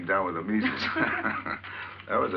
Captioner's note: both laughing